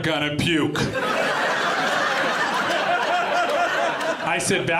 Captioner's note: audience laughing